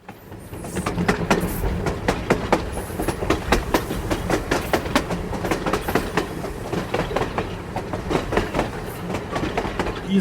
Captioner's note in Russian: звук движения поезда, перестук рельс